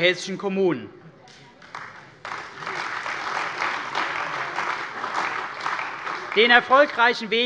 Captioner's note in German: Beifall bei der CDU und dem BÜNDNIS 90/DIE GRÜNEN